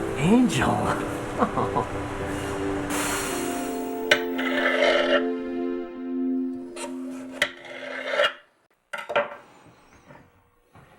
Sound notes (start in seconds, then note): 1.2 chuckles; 4.0 knife sliding